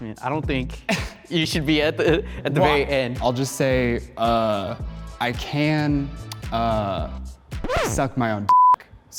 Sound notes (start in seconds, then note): 8.5 beep